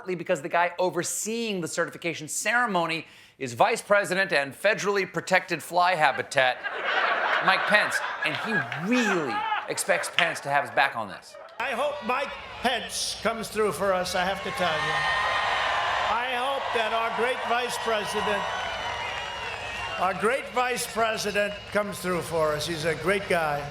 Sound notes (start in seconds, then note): 14.3 applause